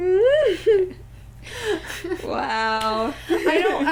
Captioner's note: laughter